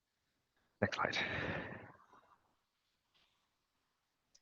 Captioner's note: exhales sharply